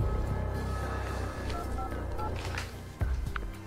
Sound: dialing phone number

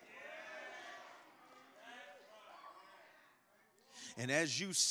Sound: congregation muttering in agreement

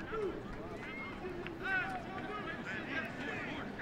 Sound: players yelling

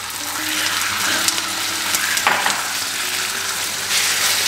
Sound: chicken sizzling

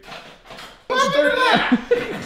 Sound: loud clamouring

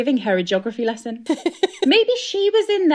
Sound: laughing

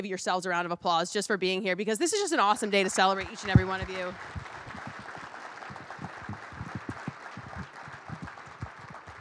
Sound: applause

